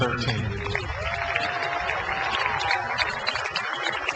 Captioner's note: crowd applauds